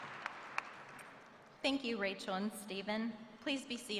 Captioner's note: applause